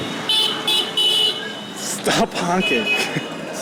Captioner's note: horns beeping/blaring